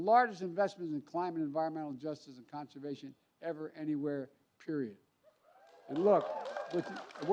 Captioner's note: applause